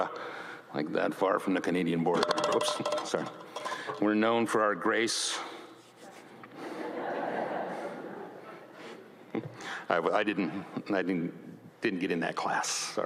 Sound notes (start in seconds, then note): 2.2 podium rattles; 6.6 audience laughs